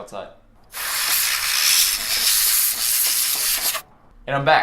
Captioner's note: hissing